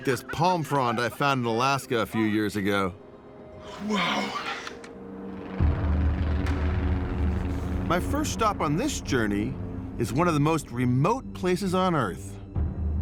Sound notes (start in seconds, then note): 5.2 plane engine droning